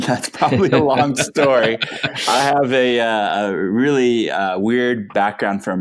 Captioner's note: laughing